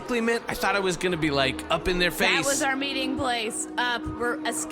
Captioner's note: frustrated, monotone